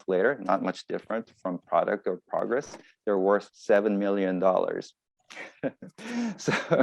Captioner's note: laughs